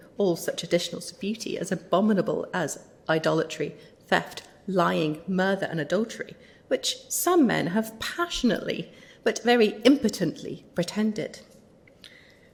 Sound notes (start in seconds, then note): none